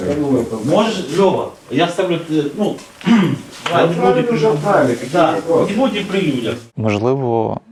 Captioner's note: conversation among medical personnel